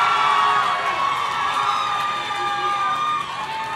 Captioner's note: audience cheering